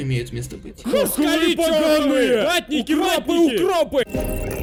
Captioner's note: angry shouts